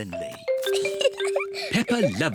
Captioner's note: giggles